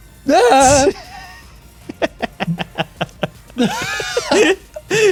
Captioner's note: exclaims; snickers; both laughing